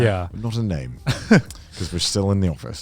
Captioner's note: laughs